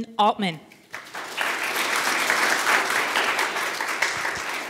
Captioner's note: audience applauding